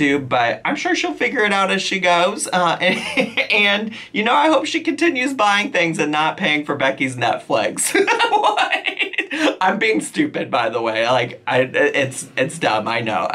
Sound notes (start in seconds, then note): 7.9 laughing